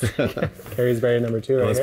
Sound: chuckling

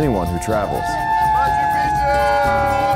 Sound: cheering

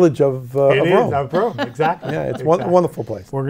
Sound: laughs

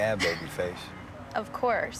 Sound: laughs

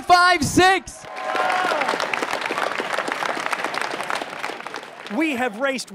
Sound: crowd cheering and clapping

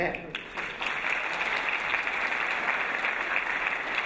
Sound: applause

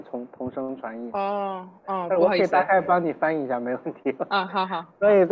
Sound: Mandarin

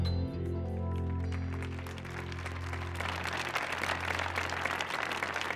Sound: audience cheering

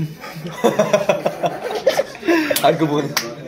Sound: laughing

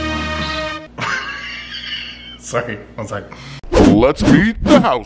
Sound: laughing

